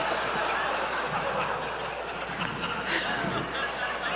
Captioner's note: laughter